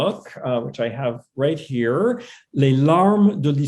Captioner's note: speaking in a foreign language